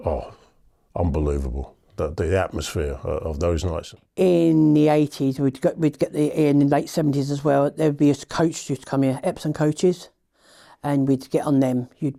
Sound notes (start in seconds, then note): none